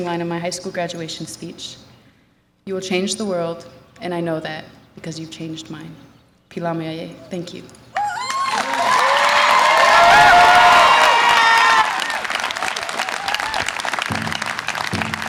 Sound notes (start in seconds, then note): 6.6 speaks foreign language; 7.9 audience applause and cheer